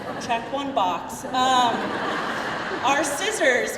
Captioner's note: crowd laughing